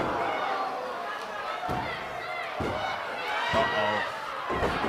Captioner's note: crowd chatter